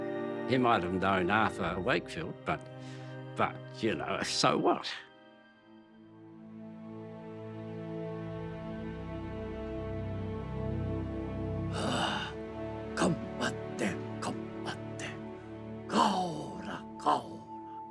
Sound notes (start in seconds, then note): 5.5 pensive music; 11.7 grunts